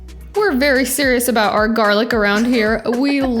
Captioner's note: laughs